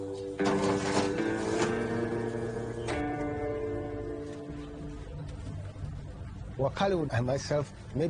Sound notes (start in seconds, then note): 1.9 oven door closes